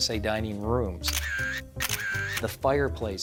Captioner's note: camera shutter snapping